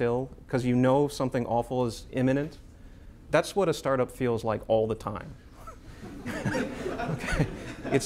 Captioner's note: laughter